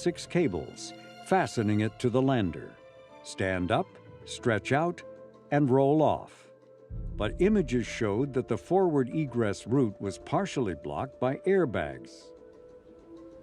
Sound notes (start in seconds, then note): none